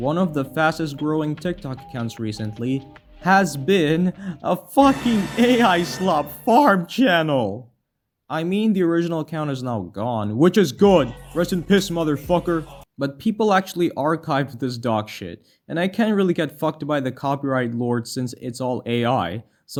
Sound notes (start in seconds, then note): 4.1 inhales